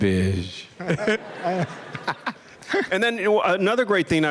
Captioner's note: laughter